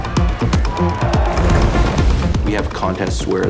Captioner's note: cheering; splashing